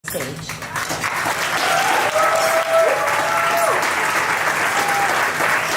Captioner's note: audience claps